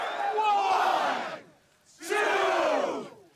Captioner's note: cheering and applause